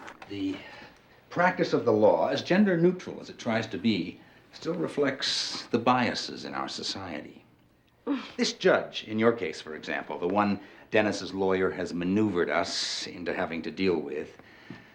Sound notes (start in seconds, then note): 8.0 sighs